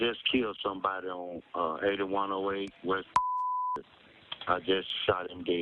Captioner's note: beep